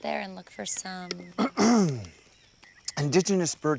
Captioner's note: clears throat